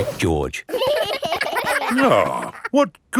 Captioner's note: giggling